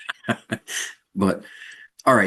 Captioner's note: laugh